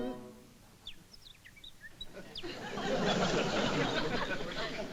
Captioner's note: bird noises